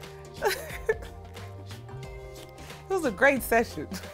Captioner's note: laughs